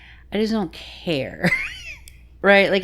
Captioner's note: laughing